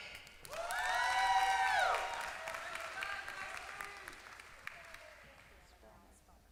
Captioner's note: applause